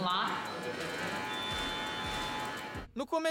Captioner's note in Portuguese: motor da esteira